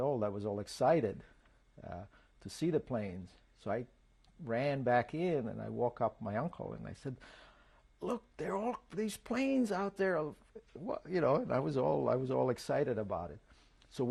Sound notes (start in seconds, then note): none